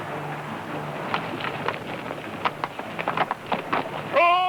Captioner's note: hoof beats